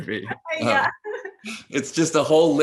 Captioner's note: both laughing